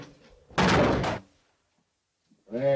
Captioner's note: loud bang